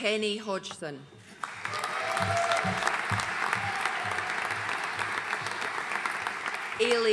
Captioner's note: audience cheering and applauding